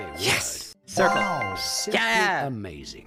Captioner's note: correct sound